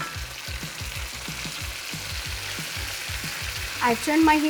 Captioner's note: upbeat music; meatballs sizzling